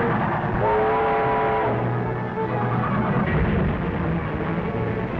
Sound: train horn blowing

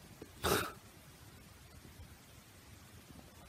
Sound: snorts

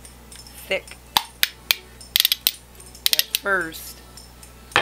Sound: spoons clicking

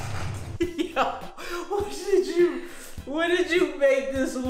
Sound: laughs

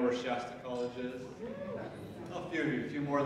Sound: audience member cheers

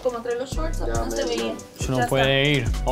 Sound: indistinct chatter

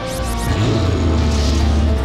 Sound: growls

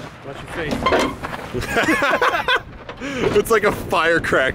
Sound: laughing

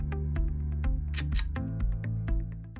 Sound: click

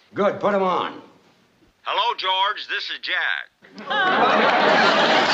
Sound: Jack Benny's voice

